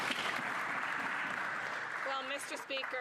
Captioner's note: some Applause